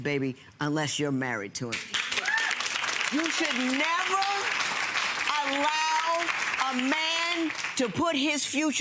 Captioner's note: audience clapping